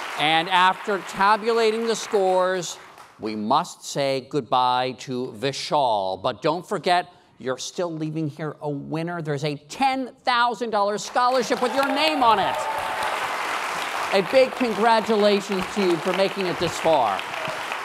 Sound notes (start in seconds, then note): 13.3 applause